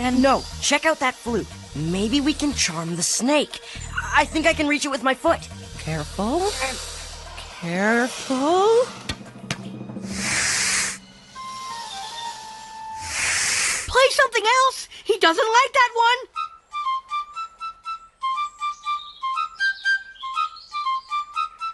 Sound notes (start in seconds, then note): 10.0 snake hissing; 11.5 flute music, snake hissing